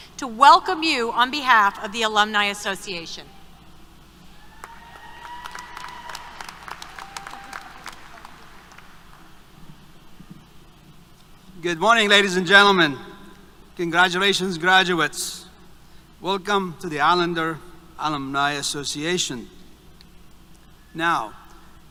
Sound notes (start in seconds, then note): 4.4 applause, Cheers